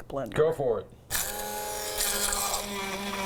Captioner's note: blender noise